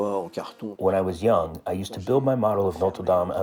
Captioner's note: through translator